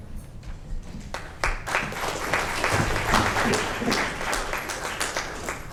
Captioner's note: audience applauds